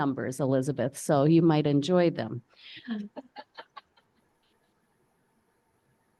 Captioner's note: participant laughs